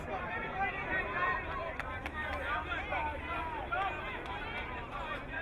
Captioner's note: crowd cheering